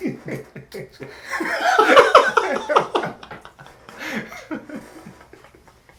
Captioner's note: laughs